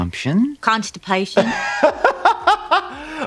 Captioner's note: laughing